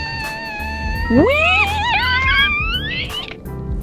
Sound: both of them scream as they plunge into the abyss

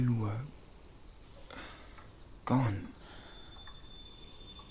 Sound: sigh

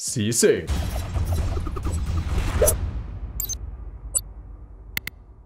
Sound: crashing; whooshing

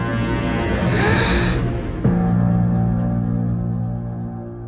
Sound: Saria gasps

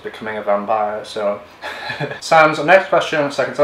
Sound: laughs

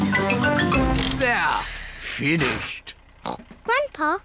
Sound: oinks

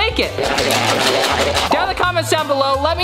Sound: burbling

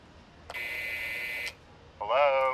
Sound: intercom buzzes

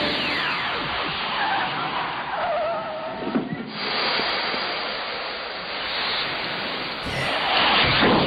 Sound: car screeching and steaming

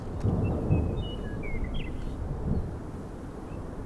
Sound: birds chirping

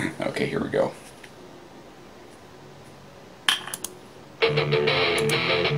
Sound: awkward Slience

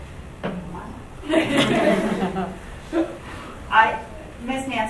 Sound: audience laughs

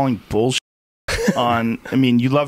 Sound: laughs

